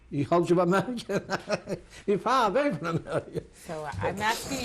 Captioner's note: non-english; laughs